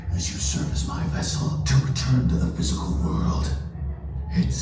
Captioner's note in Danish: none